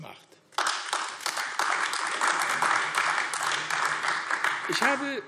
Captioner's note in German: Beifall AfD